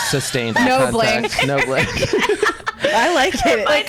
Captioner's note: laughs